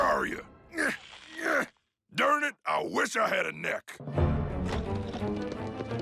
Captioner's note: laughing; grunting